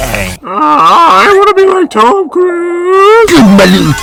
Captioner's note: nerdy voice